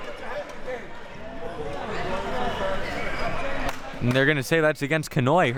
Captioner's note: audience applauding and cheering; audience chattering